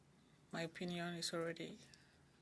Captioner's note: speaking French